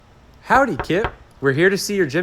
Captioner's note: knocking